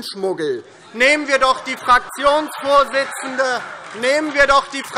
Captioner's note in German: Heiterkeit DIE LINKE und SPD - Zuruf SPD: Hört, hört!